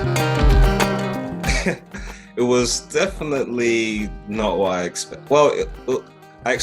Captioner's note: chuckle